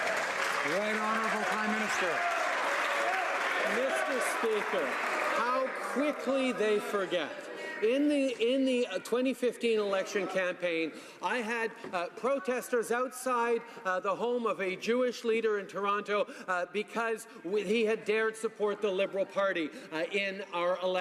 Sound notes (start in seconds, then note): 3.5 some Applause